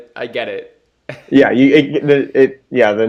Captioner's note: laughs